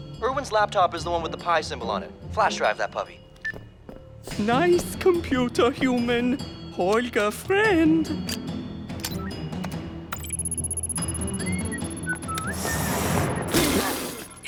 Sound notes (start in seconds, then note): 8.9 laptop whirs and beeps; 10.3 whistles; 13.4 spit